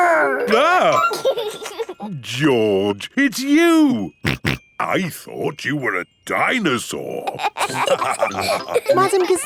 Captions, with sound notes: Grr! -(EXCLAIMS) -(GIGGLES) -George, it's you! -(SNORTING) I thought you were a dinosaur! (ALL LAUGHING)